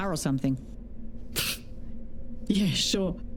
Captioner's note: scoffs